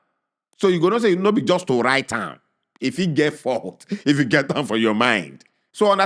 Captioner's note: chuckles